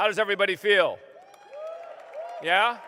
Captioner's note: applause